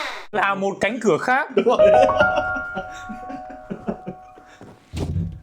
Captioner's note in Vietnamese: tiếng cười